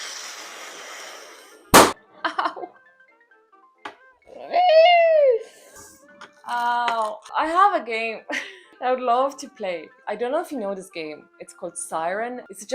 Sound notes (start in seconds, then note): 0.0 sound of a balloon being inflated; 4.5 screeching like a dinosaur